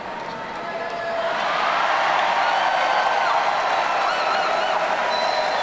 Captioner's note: audience cheering